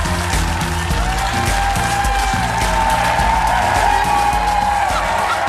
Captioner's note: audience applauding; upbeat music; audience cheering